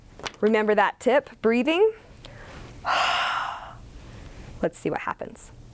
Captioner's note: sound of breathing